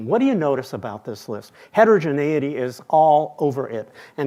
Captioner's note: none